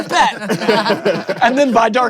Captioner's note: laughter